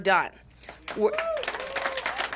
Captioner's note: applause